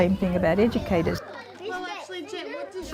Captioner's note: childrens voices